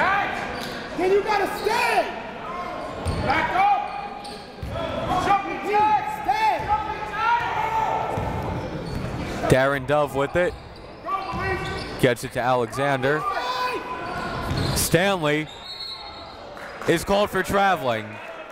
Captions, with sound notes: (crowd talking) (coaches yelling) Darin Dove with it, gets it to Alexander. Stanley (whistle blows) is called for traveling.